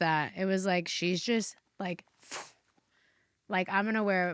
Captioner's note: imitates swooshing